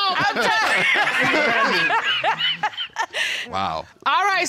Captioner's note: all laughing